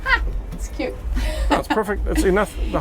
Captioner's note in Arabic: تضحك